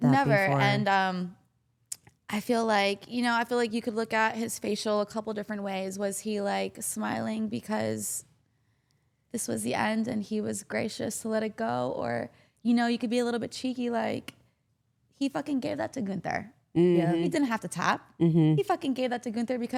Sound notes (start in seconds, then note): none